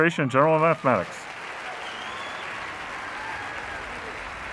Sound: audience applauding

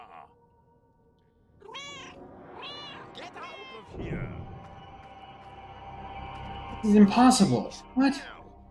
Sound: Hodge meowing

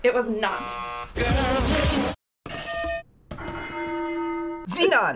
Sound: bells ring

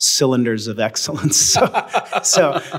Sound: both laugh

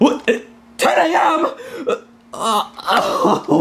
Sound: whimpers

